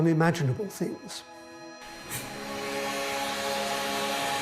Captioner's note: steam hissing